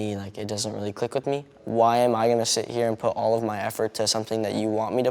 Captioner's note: none